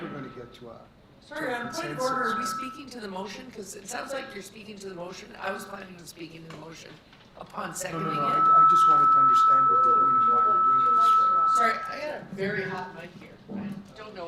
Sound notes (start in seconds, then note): 7.8 microphone feedback